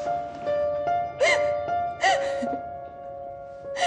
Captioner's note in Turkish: ağlıyor